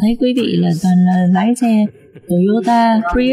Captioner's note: laughter